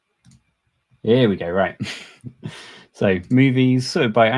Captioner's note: chuckles